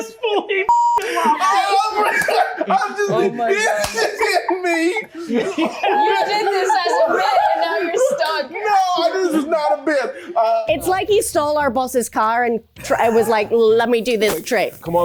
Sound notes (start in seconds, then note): 5.7 everyone laughs